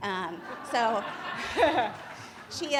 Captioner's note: laughter